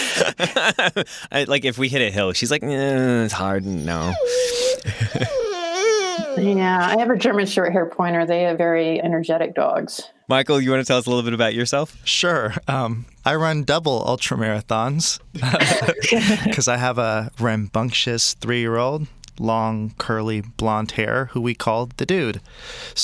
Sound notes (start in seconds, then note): 0.0 laughs; 3.6 dog whining